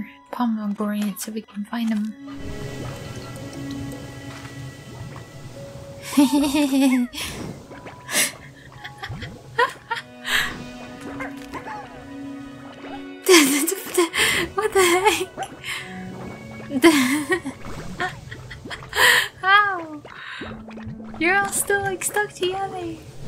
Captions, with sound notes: Pomegranites if we can find 'em (laughter) (laughter) (laughing) What the heck! (laughter) How?? You're all still like stuck together!